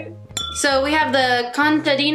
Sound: clink

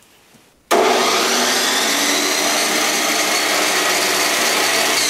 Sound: electric saw whirring; wet dry vac humming

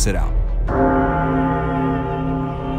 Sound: gong sound

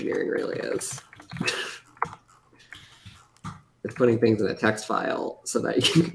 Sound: laughs

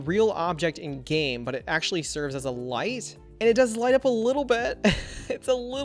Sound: chuckles

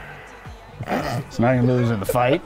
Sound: laughing

